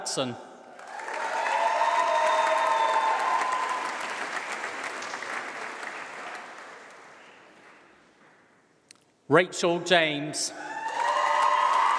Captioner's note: applause; applause